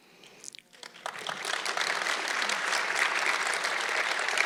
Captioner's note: audience clapping